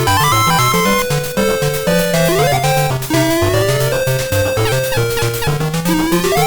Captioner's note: laughs